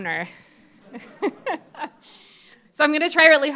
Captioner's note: laughter